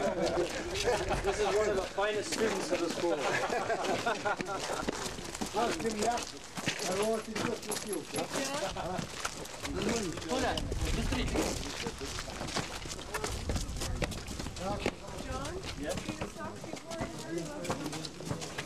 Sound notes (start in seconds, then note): 3.2 laughter; 5.6 russian speech; 18.4 russian speech